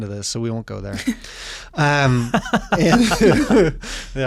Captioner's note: everyone laughing